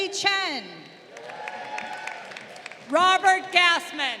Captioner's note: crowd applauding